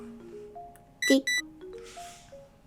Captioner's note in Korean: 삐릭